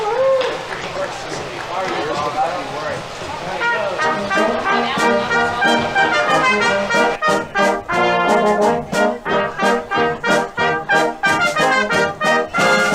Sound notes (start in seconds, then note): 0.0 audience applauding; 0.0 people chattering; 0.2 audience members cheering; 4.0 spirited music; 4.2 people chattering